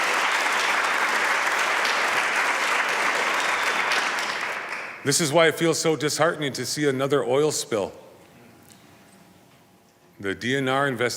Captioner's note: applause